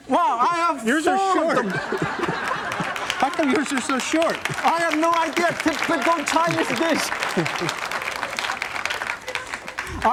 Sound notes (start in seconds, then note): 0.8 laughter; 7.4 clapping